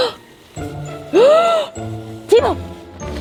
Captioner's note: gasps